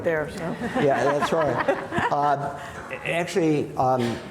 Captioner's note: panelist laughing